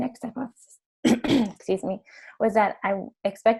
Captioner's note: clears throat